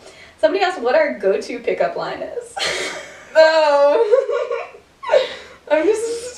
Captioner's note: laughter